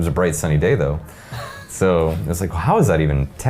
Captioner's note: chuckling